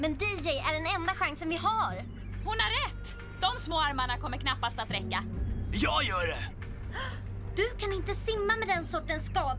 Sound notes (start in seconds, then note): 5.3 gasps